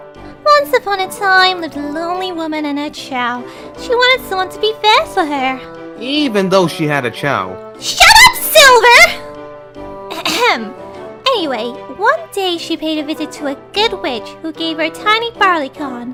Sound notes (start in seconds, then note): 10.0 ahem